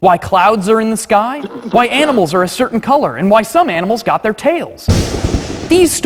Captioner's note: clap of thunder